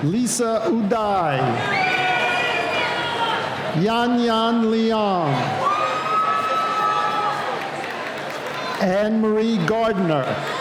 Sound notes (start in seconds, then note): 1.2 cheering; 5.0 cheering